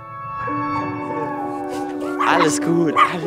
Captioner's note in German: Bellen und Jaulen